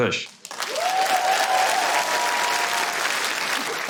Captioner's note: cheering, applause